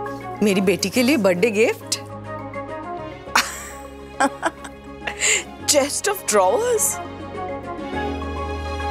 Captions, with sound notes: It's a birthday gift for my darling daughter. [chuckling] A chest of drawers!